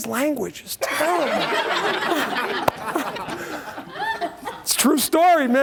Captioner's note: laughter